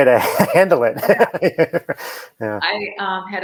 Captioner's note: laughs